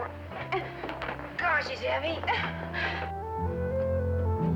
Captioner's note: Momma straining